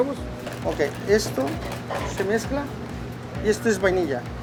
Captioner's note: foreign language